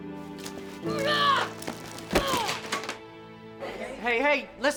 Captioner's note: KC grunting